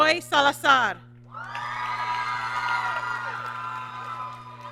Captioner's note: applause